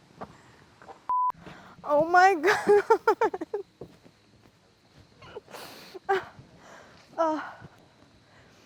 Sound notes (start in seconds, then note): 1.1 beeps; 2.3 Claire laughs